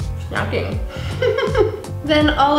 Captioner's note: laughs